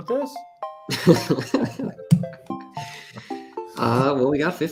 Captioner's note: laughter